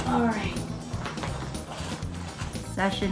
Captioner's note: blanket crinkling